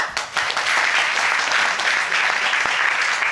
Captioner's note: crowd clapping